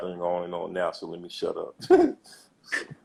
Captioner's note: laughs